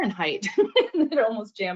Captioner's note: laughs